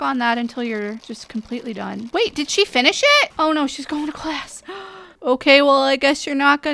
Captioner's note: gasp